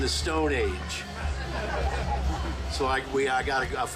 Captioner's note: group laughing